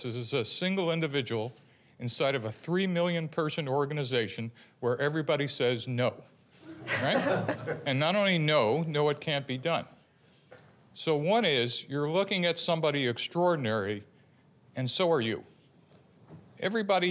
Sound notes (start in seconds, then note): 6.6 laughter